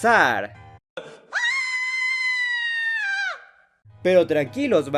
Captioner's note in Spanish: Gritos de perra loca